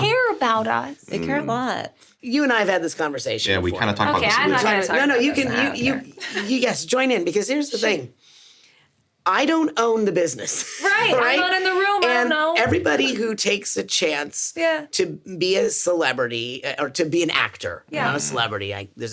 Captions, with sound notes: - Yeah. - They care about us. - Mm. - They care a lot. - You and I have had this conversation before. - Yeah, we kinda talked about this. - Okay, I'm not gonna talk about this. I don't care. - No, no, you... Yes, join in (Sarah laughs) because here's the thing- - Sure. - I don't own the business. (chuckles) - Mm. - Right. - Right? - I'm not in the room. I don't know. - And everybody who takes a chance- - Yeah. - To be a celebrity, or to be an actor- - Yeah. - Not a celebrity.